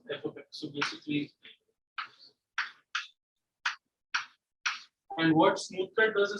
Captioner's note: chalk writing on board